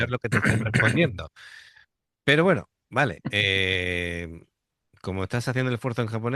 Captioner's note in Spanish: carraspeo